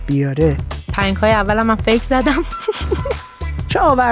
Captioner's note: laughs